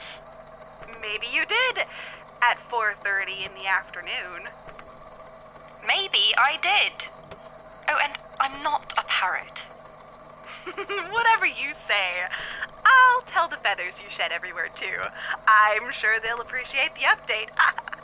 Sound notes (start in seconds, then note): 10.4 giggles; 17.5 laughs